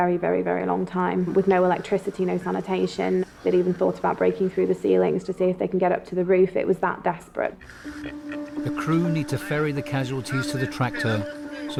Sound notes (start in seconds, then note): 7.7 intense music; 8.0 volunteer laughs